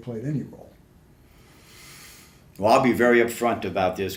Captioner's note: takes deep breath